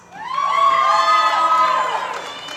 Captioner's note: applause